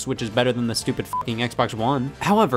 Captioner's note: beep